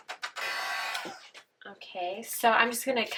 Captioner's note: blow dryer whirs